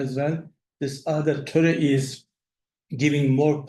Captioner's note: speaks in foreign language